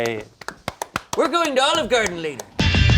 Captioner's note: clapping; bright music